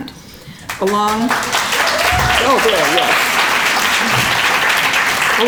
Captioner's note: applause